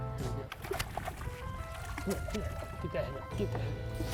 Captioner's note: water splashes